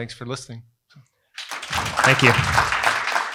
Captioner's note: applause